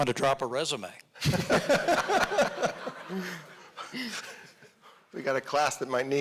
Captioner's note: audience laughing